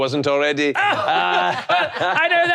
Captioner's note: both laughing